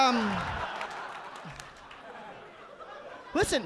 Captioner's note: audience laughing